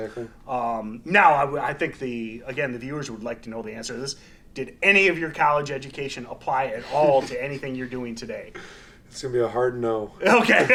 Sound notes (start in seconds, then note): 10.2 laughing loudly; 10.2 laughs